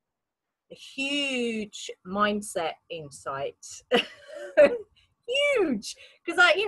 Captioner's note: laughs